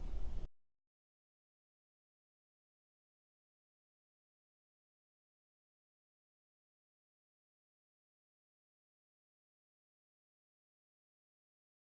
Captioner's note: pause in speaking